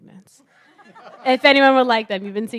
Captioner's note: laugh